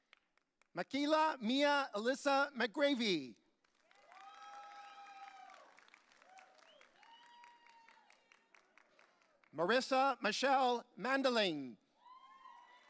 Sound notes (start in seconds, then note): 4.0 audience cheering; 12.0 audience cheering